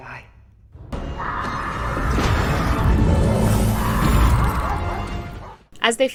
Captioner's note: Dana screaming